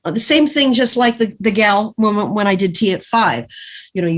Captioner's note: none